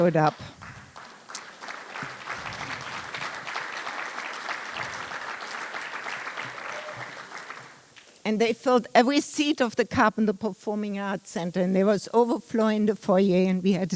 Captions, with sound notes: WELL, OVER 2,000 ILW MEMBERS SHOWED UP. [ APPLAUSE ] AND THEY FILLED EVERY SEAT OF THE CARPET AT THE PERFORMING ARTS CENTER AND IT WAS OVERFLOWING FOR YNB